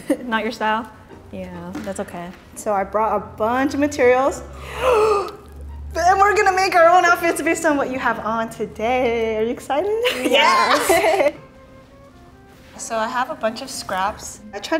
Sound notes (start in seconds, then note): 4.5 taking big breath; 10.0 both laughing